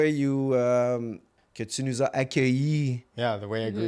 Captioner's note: in french